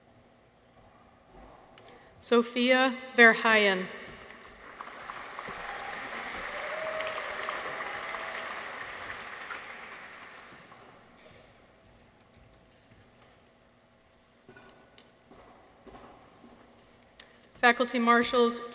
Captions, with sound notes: Sofia Verheyen. -(people cheer) -(audience applauds) Faculty Marshals,